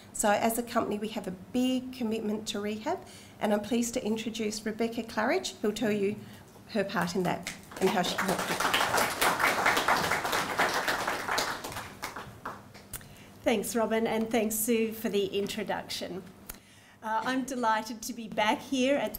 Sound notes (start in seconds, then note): 10.3 audience applauding